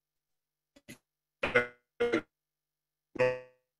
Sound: audio got distorted

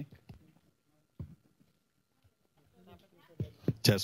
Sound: pause

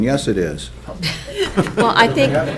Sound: people chuckling

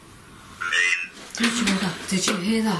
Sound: voice from Ovilus

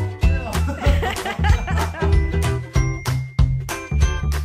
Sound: both laugh

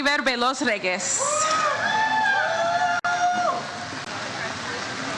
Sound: audience cheers

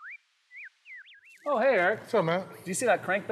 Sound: bird chirping

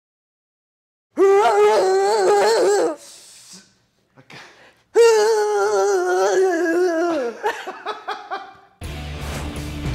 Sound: laugh

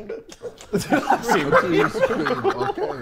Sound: Sidemen laughing

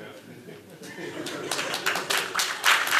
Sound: applause

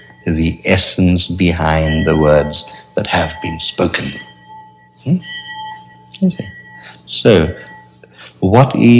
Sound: bell ringing in background

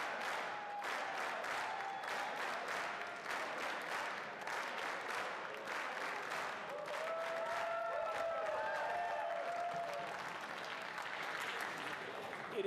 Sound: applause

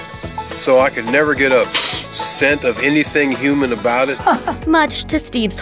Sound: sniffs

